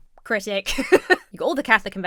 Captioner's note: laughs